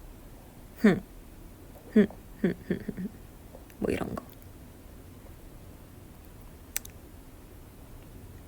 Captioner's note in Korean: 웃음